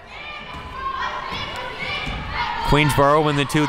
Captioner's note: crowd murmuring